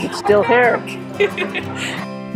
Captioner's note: laughing